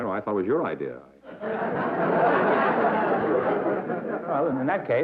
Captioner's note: laughter